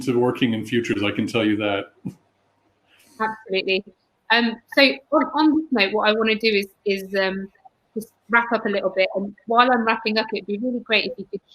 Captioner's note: erm